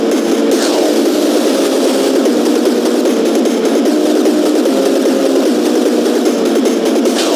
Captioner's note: beatboxing